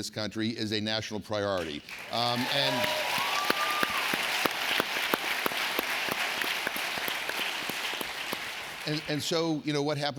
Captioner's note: applause